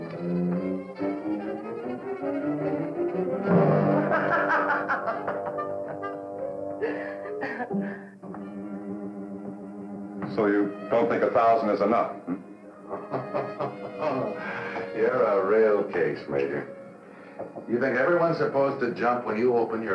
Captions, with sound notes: [laughing] So you don't think a thousand is enough, hm? [chuckling] You're a real case, Major. You think everyone's supposed to jump